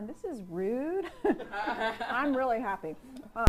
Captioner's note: laughs